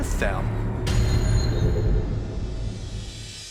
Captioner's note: whirring